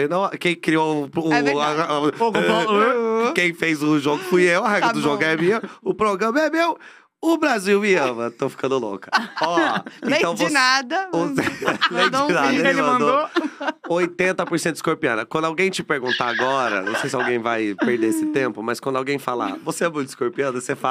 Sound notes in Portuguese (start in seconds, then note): 9.0 risos